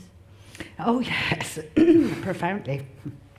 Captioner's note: laughs